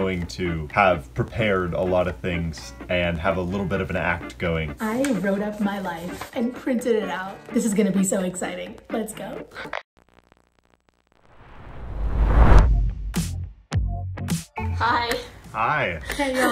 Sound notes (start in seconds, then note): 11.4 air whooshing; 13.8 upbeat music